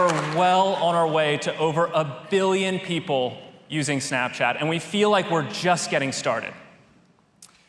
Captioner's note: applause